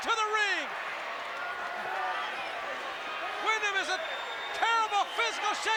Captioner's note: applause